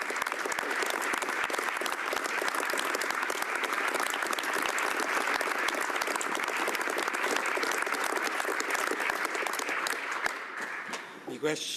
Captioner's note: applause